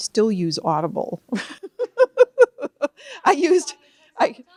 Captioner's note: laughs